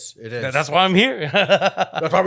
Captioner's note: laughs